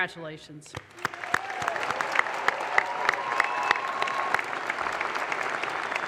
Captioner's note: audience applause